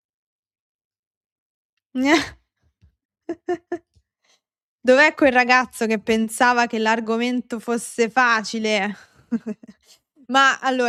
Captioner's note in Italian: risate